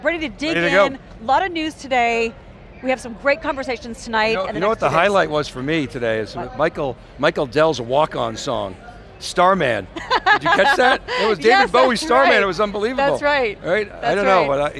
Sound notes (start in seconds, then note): 9.9 laughing